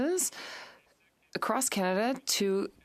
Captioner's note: speaking French